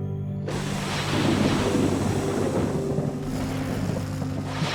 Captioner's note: thunder rumbling